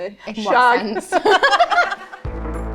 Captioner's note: both laugh